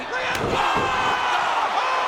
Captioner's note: audience cheering and clapping; kick thuds